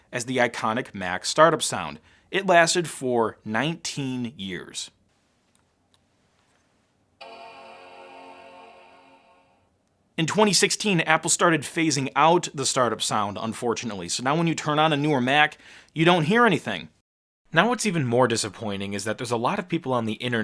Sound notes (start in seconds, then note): 7.2 computer startup sound